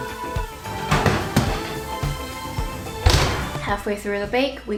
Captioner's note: upbeat music; rattling sound